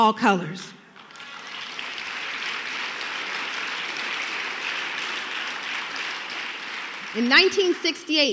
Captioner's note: applause